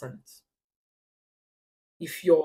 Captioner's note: paause